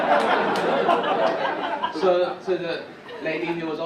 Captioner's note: audience laugh